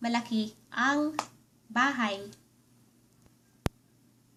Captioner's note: Tagalog